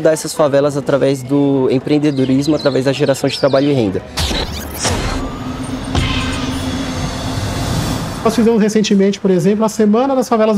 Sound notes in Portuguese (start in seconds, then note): 5.1 Ruídos urbanos